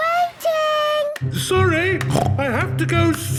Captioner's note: snorts